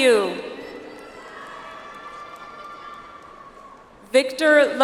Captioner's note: audience applauds